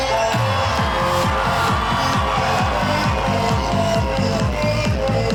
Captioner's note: audience cheers